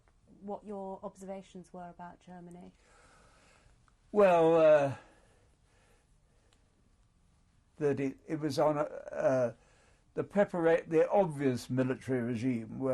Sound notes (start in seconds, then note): 5.2 pauses for 3 seconds